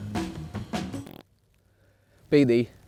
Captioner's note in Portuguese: som de peido